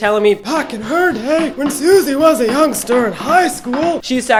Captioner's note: old man voice